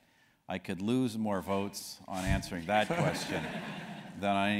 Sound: laugh

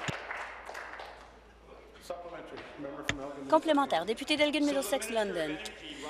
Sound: applause

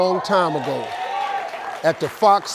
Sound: crowd cheers

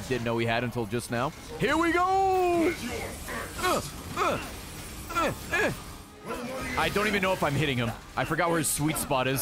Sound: stabbing noises

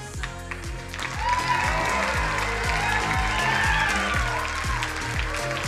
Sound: crowd cheering and applauding

